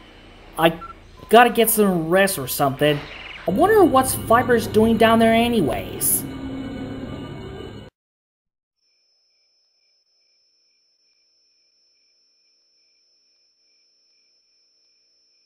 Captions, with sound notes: I gotta get some rest or something. I wonder what's Viper doing down there anyways? (Crickets chirping)